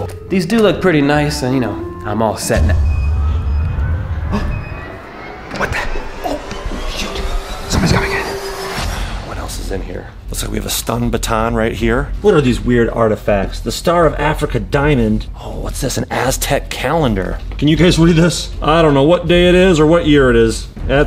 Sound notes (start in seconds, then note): 2.8 beeping; 4.6 dramatic music